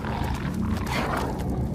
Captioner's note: wolves growling